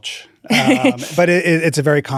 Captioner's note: laughs